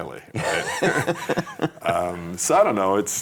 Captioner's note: laughing